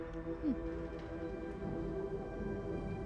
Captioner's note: Mya chuckles; pensive music